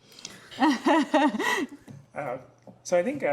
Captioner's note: everyone laughs